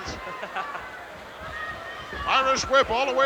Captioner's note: Jimmy laughs